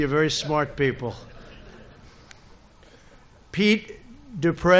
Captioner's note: laughter